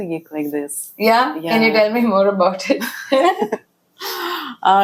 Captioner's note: laughs